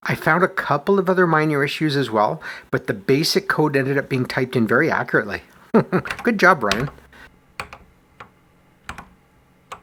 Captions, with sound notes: I found a couple of other minor issues as well, but the BASIC code ended up being typed in very accurately. [chuckles] Good job, Bryon!